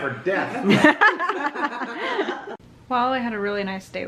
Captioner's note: laughs